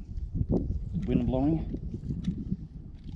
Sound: wind whooshes

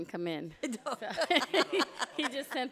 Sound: group laughing

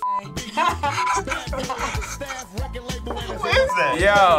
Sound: beep; chuckling; laughs

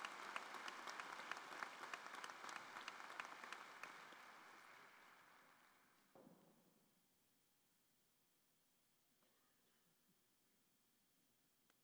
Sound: applause

